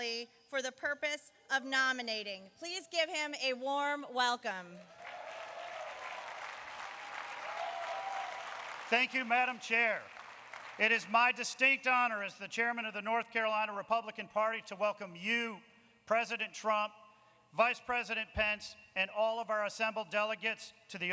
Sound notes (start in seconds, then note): 9.9 applause